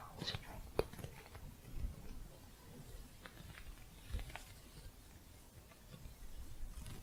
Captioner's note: faint scratching